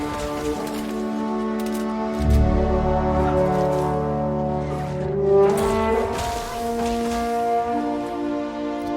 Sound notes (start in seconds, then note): 3.9 grunting